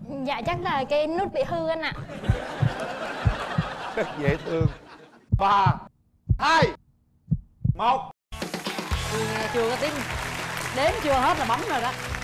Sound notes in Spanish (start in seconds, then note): 2.0 risas; 8.4 música alegre